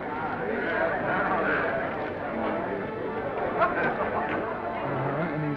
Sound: chattering

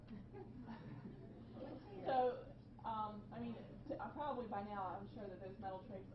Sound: laughing

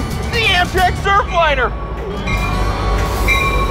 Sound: bell clanging

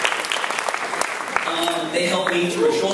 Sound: applause

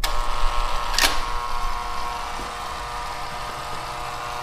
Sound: door buzzes

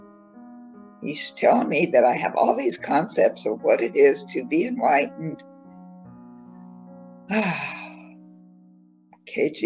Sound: sigh

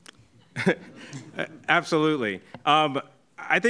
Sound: laughing; audience laughing

